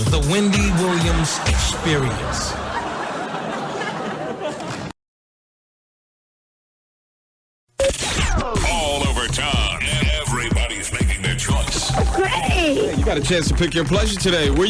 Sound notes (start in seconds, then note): 3.5 audience laughing; 5.3 electronic beeping